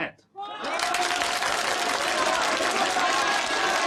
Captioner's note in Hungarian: üdvrivalgás, vastaps